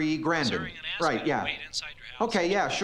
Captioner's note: on phone